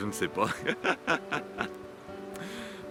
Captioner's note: laughs